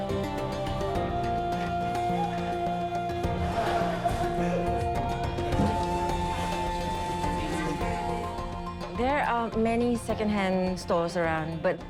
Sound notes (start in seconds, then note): 5.5 indistinct chatter